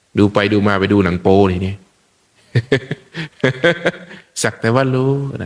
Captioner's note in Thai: เสียงหัวเราะ